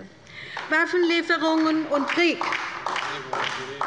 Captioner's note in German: Beifall bei der LINKEN